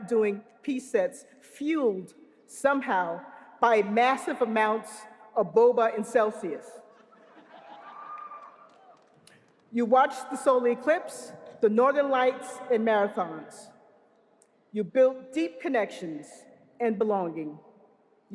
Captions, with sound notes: doing p-sets fueled somehow by massive amounts of boba and Celsius. [LAUGHING] You watched the solar eclipse, the Northern Lights, and marathons. You built deep connections and belonging.